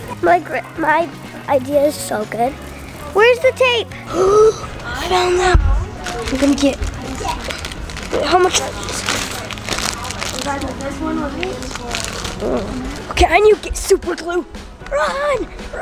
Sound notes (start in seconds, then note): 4.3 gasps